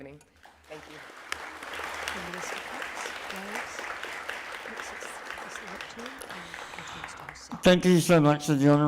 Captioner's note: applause